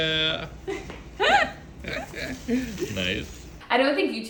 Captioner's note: laughing; laughs